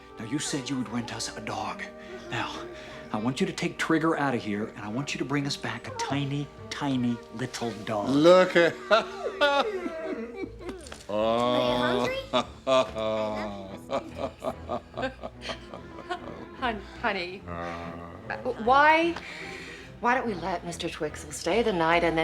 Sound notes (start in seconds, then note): 8.8 laughing; 9.7 dog whimpering; 11.0 harry laughing